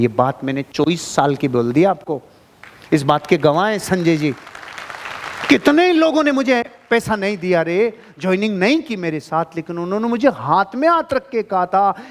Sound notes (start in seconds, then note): 3.9 round of applauses